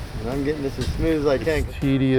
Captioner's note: upbeat music; ladder clanks